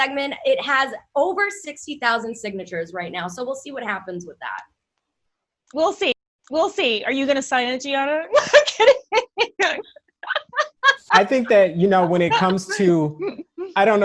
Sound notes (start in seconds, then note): 7.4 laughs